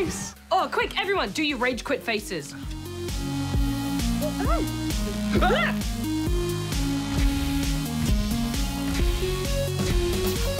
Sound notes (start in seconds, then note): 4.2 both exclaim